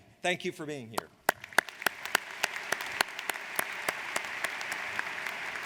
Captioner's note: audience applauds